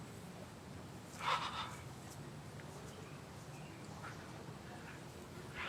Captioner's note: Allen exhales shakily